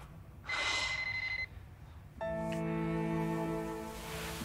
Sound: phone ringing

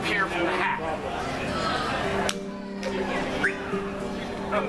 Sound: claps hands and whistles

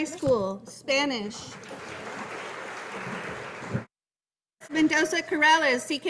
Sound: audience applauding

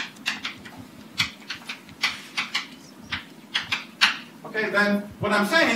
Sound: chalk writing on chalkboard

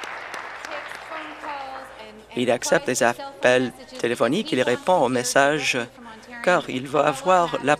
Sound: applause

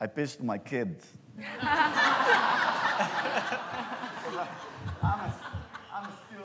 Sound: laughter

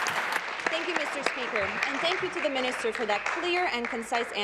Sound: applause

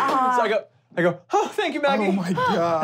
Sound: sighs

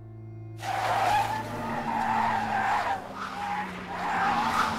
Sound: car braking

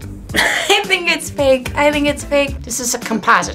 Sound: laughs

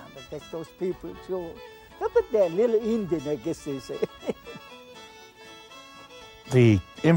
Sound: chuckles

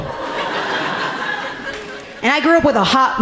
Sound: audience laughing gently

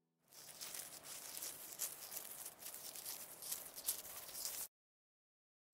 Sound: rustling noises

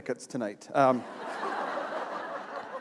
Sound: laughter

